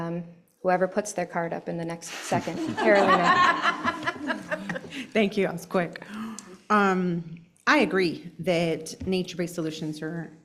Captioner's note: laughter